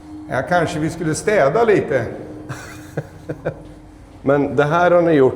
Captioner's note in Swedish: skratt